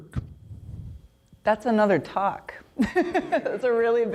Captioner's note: laughs